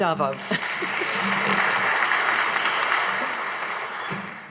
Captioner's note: audience applauding